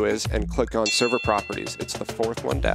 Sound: bell dinging

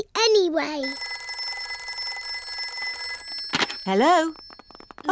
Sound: phone rings

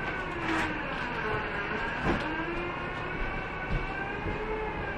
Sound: ice machine sound continues

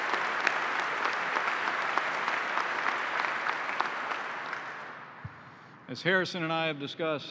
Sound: applause

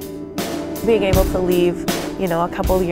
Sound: voiceover

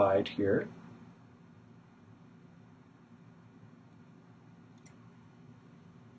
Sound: clicking

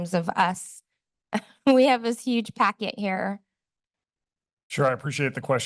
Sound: chuckles

